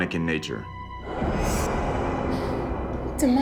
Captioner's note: burst of sound